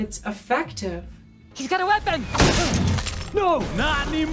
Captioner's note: smash, breaking glass sound